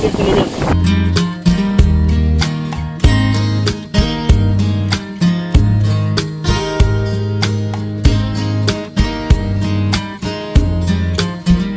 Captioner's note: because of the strong wind, music sounds